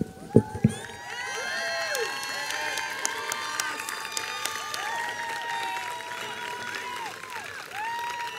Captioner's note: applause